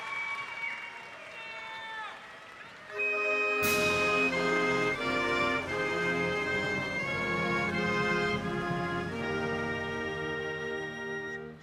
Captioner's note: cheers and applause